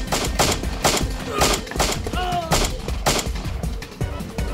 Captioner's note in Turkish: si̇lah sesleri̇